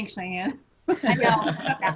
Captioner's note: laughter